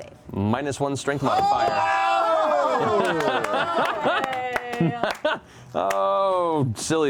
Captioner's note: cheering